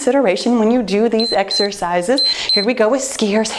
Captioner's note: timer beeps